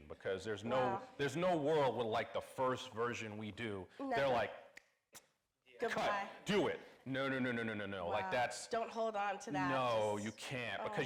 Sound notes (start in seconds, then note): 4.9 snaps